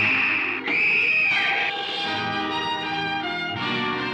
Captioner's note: Ruth screaming